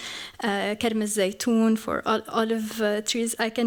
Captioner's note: non-english